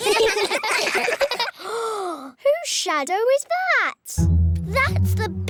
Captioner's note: all giggle; gasps